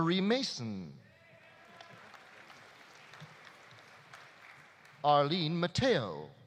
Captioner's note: audience cheering; audience applauding